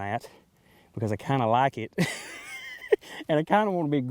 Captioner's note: laughs